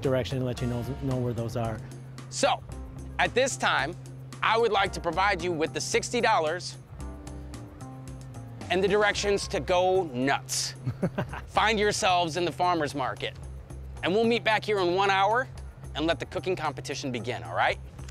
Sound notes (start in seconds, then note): 10.7 laughing